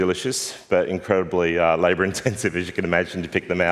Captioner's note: laughs